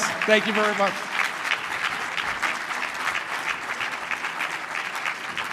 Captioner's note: applause